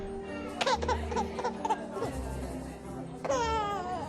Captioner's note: baby cries